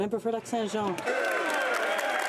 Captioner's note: applause